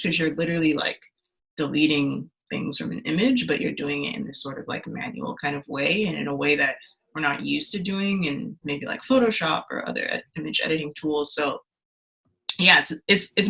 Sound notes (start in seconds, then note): none